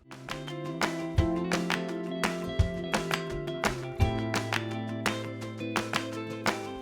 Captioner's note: hands clapping; upbeat music